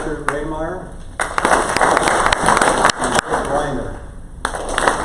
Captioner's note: crowd applause